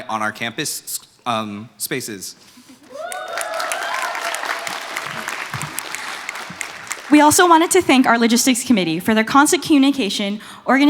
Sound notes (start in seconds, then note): 2.8 applause